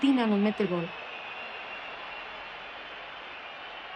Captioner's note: cheering continues